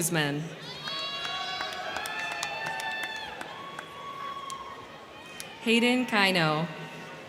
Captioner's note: crowd cheering; crowd clapping